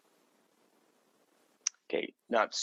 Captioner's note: silence